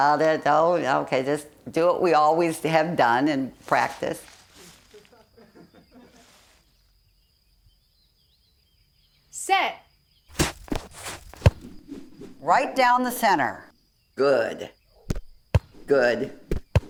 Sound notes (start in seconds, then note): 4.7 onlookers laughing; 10.3 pat; 10.3 ball thudding and whooshing